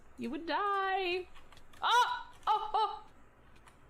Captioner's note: makes shocked noises